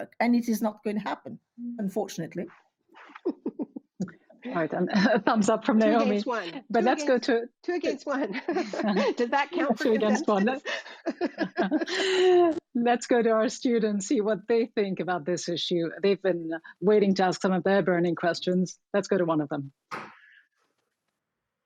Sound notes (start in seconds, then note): 3.0 laughs; 11.0 laughter